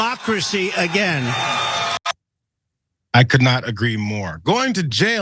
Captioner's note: applause